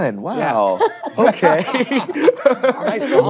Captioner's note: all laugh